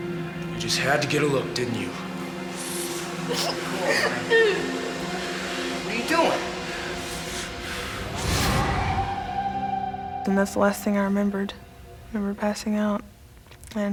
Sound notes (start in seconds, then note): 3.3 crying